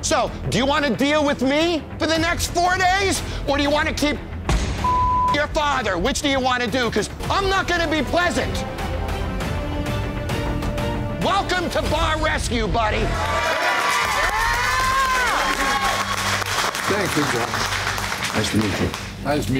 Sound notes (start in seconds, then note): 9.1 tense dramatic music; 13.0 all cheering and clapping